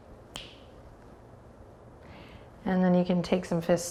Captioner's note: snaps